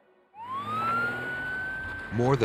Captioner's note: sirens